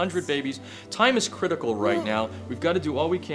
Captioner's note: woman groaning